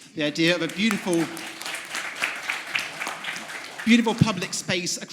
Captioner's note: audience applauds